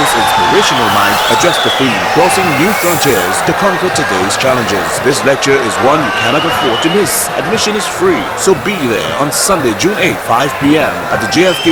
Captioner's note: wild applause and cheering for 22 seconds